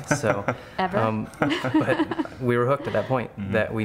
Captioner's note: laughs